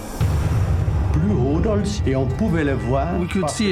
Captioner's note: non-english speech